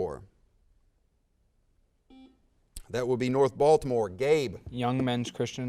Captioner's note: buzzer sounds